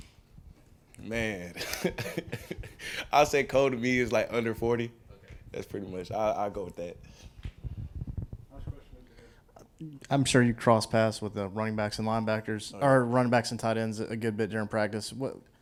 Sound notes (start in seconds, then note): 1.5 laughing